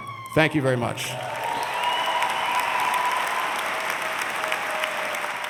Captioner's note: audience cheers and applauds